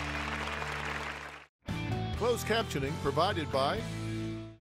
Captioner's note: applause